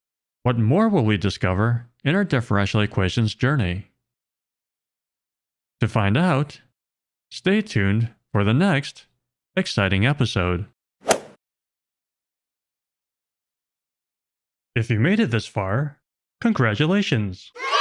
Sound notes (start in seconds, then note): 11.1 golf ball hit sound effect